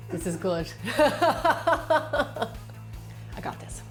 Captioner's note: laughter